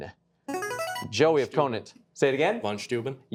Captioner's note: buzzer chimes